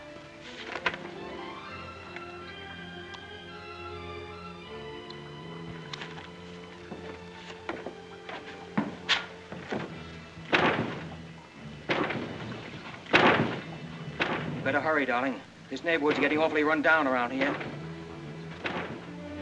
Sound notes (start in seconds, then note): 0.1 soft suspenseful music; 10.4 banging on door; 19.2 soft suspenseful music